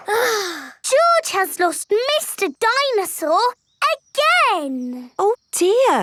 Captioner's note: sighs